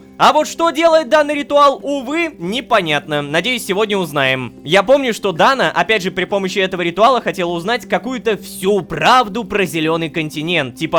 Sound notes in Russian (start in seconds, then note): none